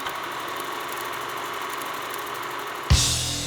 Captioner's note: film rolling; rock music